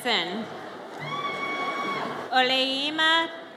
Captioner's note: audience cheers